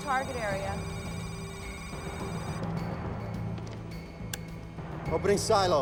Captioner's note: electronic beeping